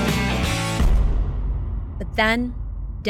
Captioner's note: dramatic thud